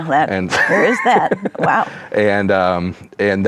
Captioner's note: laughs